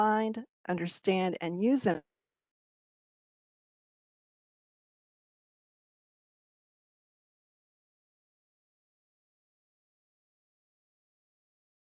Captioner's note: audio cuts out